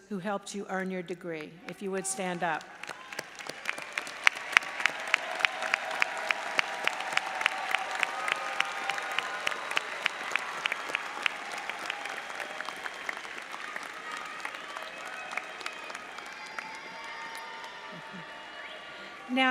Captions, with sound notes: who helped you earn your degree. If you would stand up. (audience applauds)